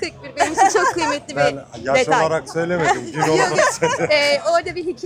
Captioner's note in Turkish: kahkaha